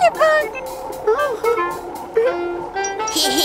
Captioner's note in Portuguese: Risos